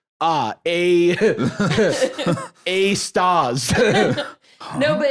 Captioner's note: laughs